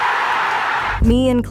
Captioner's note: crowd cheering